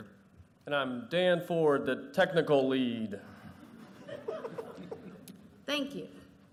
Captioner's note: laughter